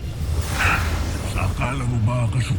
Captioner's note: ethereal whoosh